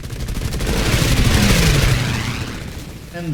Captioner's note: engines, machine guns, flying sounds